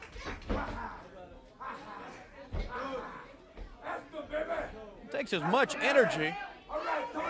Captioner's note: crowd chatter